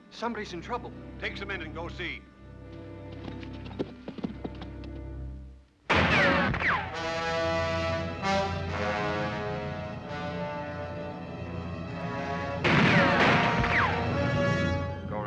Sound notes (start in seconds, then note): 2.7 hoofbeats; 5.8 sinister music; 5.9 bullet ricochets; 5.9 gunshot; 8.7 sinister music; 12.6 gunshots